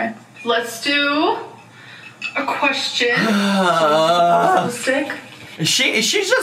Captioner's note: groans